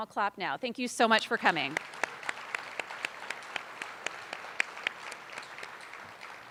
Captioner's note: attendees applauding